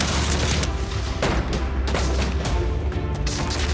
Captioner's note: rifles firing; gunshots firing